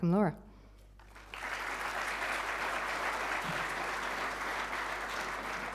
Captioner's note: audience applauding